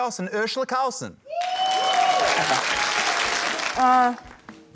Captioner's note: cheering, applause